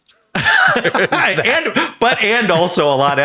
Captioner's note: Sam and Hank laughing